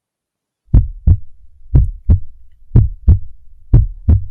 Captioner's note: heart thumping